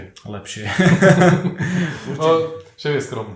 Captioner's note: laughter